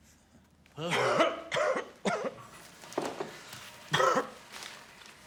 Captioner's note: person coughing